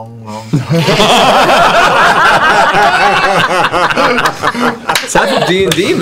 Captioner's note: laughter